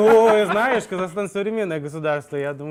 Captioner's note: laughter